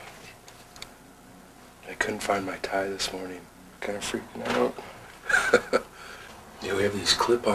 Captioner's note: laughter